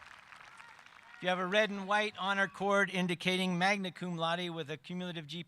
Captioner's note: cheering and applause